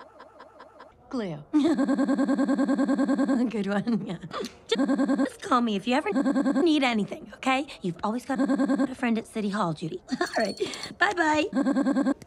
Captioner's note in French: Interruptions randoms par des rires flippants